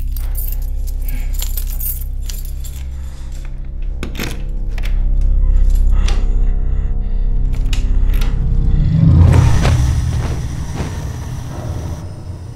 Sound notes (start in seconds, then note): 5.7 breathing raggedly; 9.0 door creaks